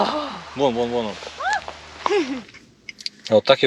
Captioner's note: fright and laughter